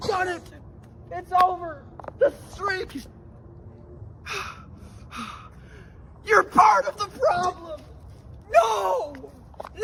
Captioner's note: breathing heavily